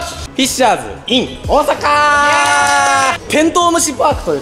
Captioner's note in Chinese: 拍手